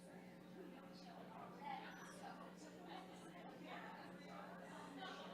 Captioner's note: people chattering